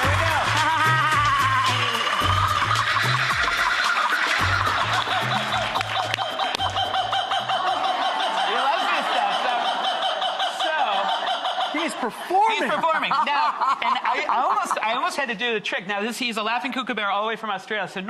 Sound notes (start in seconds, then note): 2.2 kookaburra chattering